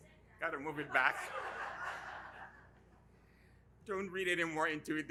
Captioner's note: audience laughing